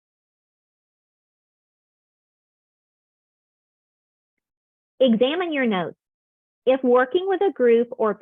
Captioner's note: silence